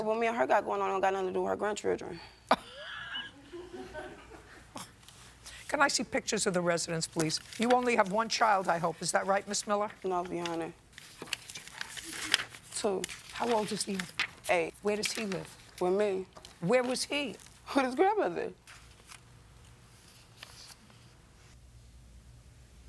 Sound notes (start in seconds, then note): 2.5 laughter; 2.5 laughs